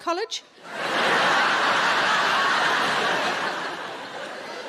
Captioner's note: audience laughing